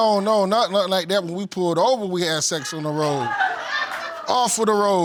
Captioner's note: audience exclaims